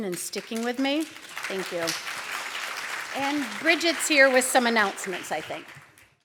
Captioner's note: applause